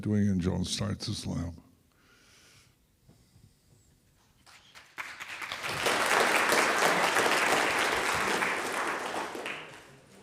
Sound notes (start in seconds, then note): 4.4 audience applauding